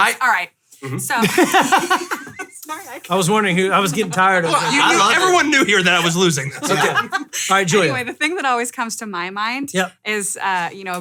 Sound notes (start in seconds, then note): 1.1 laughing